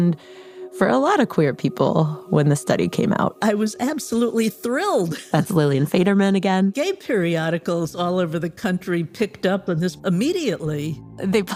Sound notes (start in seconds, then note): 5.1 laughs